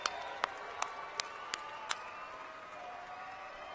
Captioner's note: cheers and applause